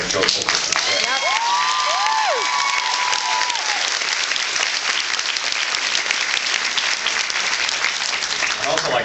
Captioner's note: cheers and applauds